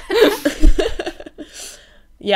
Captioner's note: hosts laugh